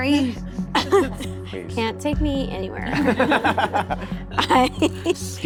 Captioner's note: all laughing